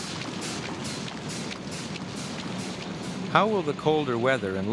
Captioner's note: air rushing